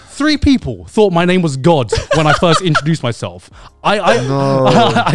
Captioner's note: laughs